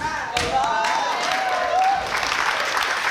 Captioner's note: clapping